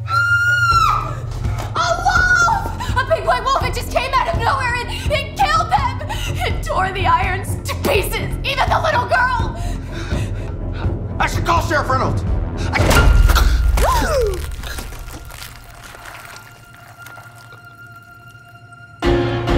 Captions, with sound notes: (woman screaming) - A wolf! A big white wolf, it just came out of nowhere! It-it killed them! It tore the Irons to pieces, even the little girl. - I should call Sherrif Reynolds. (skin ripping) (Artemis gasps) (blood gushing)